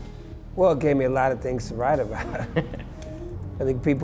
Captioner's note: both laugh